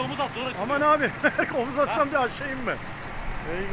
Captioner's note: laughs